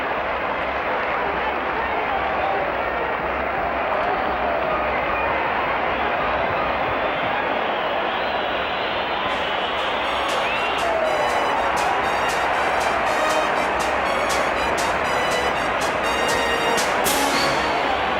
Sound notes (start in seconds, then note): 2.9 audience applauds and cheers